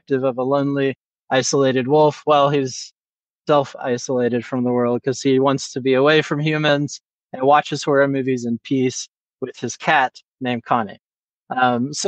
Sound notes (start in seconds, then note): none